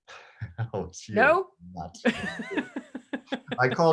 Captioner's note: laughs